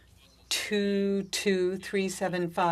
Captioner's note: speaking french